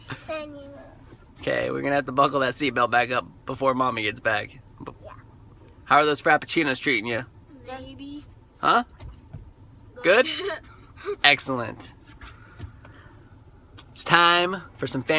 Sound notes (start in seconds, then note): 10.6 chuckle